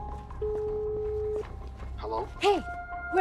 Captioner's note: line beeping